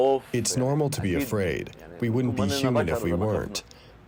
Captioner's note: through translator